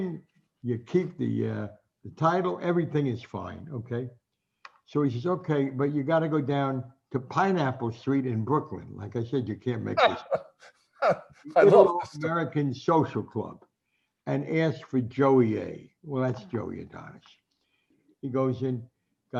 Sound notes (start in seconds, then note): 11.5 laughs